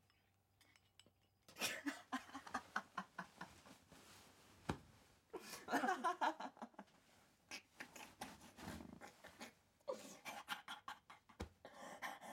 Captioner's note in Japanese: 笑い声